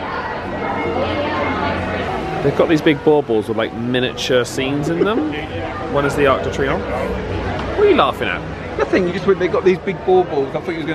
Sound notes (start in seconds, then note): 0.2 choral music; 4.8 laughing